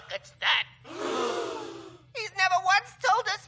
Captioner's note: crowd gasps in shock